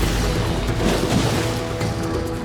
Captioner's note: splashing